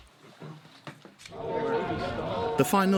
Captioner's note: people chattering